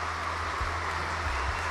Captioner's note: applause